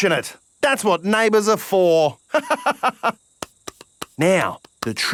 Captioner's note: laughs